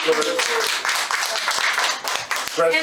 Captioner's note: audience applauding